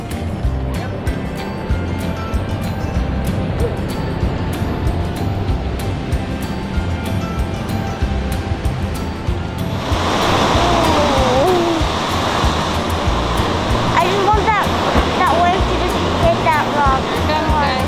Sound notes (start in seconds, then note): 10.7 waves crashing